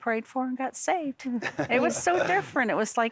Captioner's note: chucking